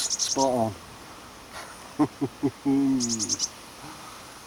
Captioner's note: laughter